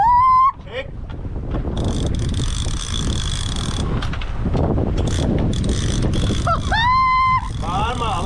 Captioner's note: scream; spinning sound